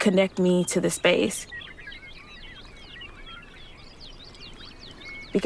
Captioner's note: an evening chorus of birds, reminiscent of a flowing river